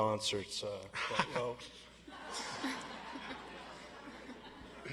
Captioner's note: audience laughs